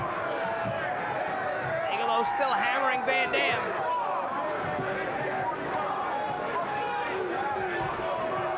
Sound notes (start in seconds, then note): 4.8 crowd jeering